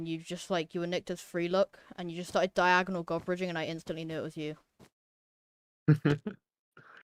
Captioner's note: laughs